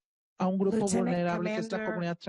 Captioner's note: speaking Spanish